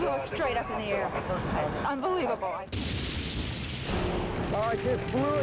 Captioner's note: site exploding